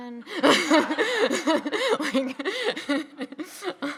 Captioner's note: people laughing